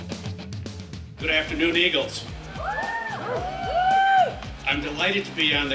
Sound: cheering

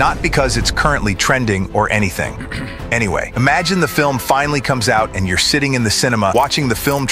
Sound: ahem

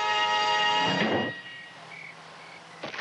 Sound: thumping; thudding

